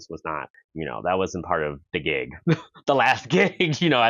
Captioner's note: chuckles